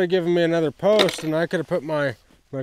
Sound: tools rattling

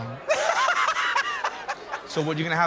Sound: laughter

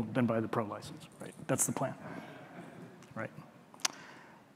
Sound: audience chuckling

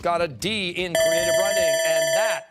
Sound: timer

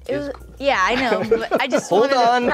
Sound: host laughing

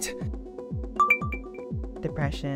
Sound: ding

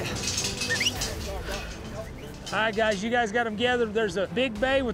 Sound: whistling

